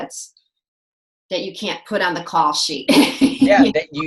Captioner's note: laughs